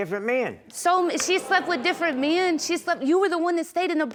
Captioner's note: audience gasps